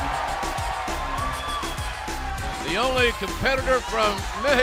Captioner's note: cheers and applause